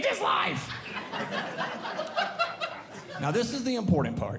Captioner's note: audience Laughing